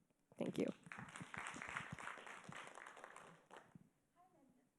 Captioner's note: audience applauding